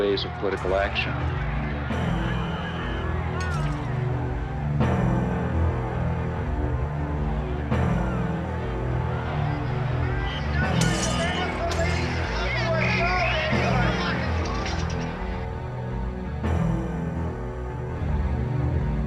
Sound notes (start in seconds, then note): 2.2 crowd clamoring; 5.0 somber music; 8.4 crowd clamoring; 10.8 objects clattering; 13.2 whistle blowing; 16.1 ominous music